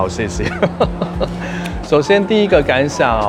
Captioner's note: laughs